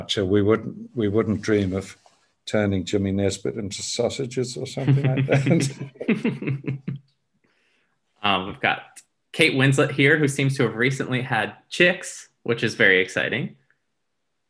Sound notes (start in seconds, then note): 4.4 laughs